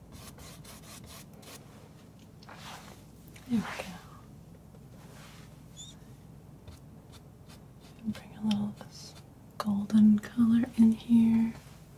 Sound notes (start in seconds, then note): 0.0 silence; 4.9 silence